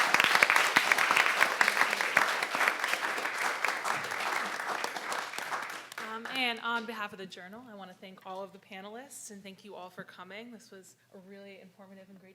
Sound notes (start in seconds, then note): 0.0 claps